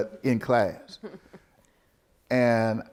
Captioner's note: interviewer laughing